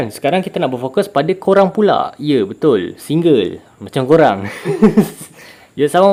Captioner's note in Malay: ketawa